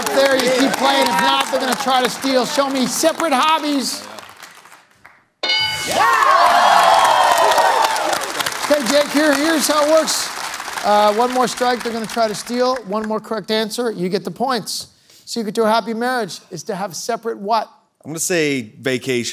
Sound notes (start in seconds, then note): 5.4 bell dings; 5.5 cheers